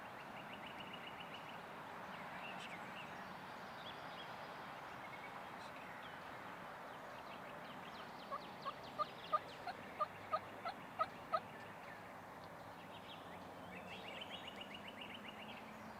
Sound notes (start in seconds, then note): 3.5 nature sounds; 9.3 multiple turkey calls